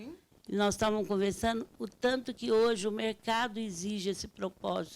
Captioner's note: speaking Portuguese